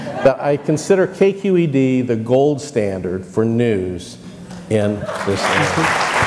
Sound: crowd laughs; murmur; crowd clapping

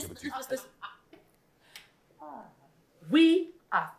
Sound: laughing

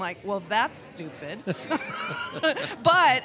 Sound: both laugh

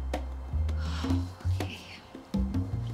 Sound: exhales nervously

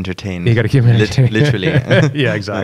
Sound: laughter

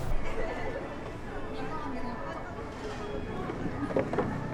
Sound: space sound of downtown area mixed with laughter and popular songs

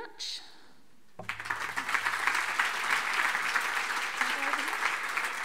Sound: audience applauding

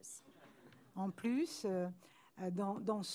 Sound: speaking french

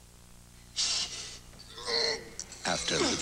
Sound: Ferrrigno Grunt

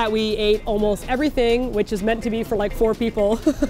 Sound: laughs

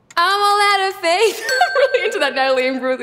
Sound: laughs

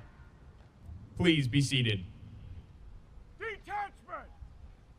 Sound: soldier shouting commands

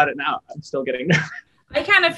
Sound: laughs

